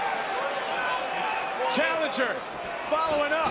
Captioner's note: crowd cheering